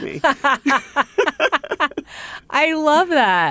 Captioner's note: laughter